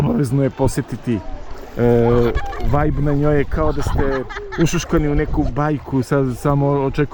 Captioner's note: laughs